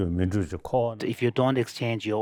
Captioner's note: speaks in Tibetan